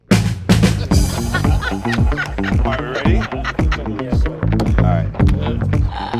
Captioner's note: upbeat music; laughter